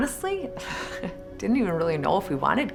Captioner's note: laughs